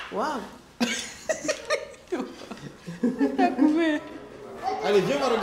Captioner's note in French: rires